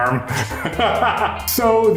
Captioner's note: laughs